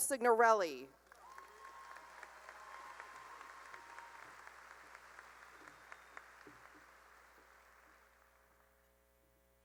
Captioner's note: cheering and applause